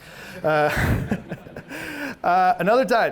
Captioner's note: all laughing